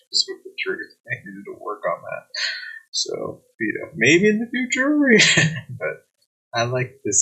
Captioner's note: chuckling; chuckling